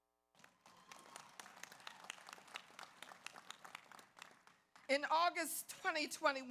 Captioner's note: audience applauds; audience cheers